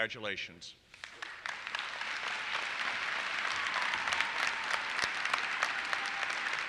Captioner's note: audience applauses